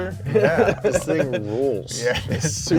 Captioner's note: laughing; chuckles